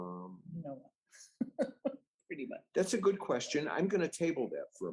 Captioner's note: laughs